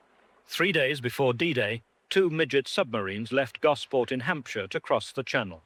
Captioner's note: voiceover